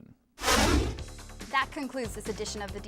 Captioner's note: deep swooshing